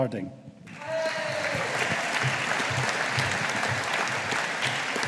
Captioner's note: audience applauding